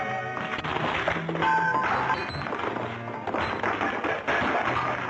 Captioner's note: clattering